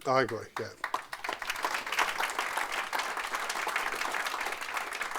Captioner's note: audience applauding